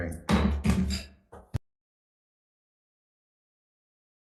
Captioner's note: gavel slamming